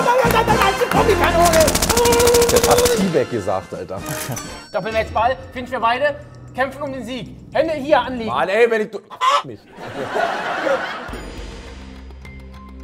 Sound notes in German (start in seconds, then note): 1.4 Maschinengewehrknattern; 9.1 Huhngackern, Lachen; 11.0 Spannungsvolle Musik